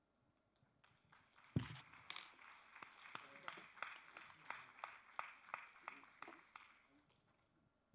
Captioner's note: applause